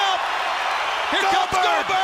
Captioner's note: crowd cheering